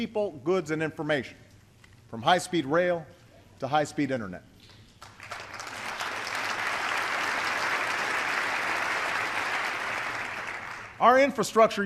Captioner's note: applause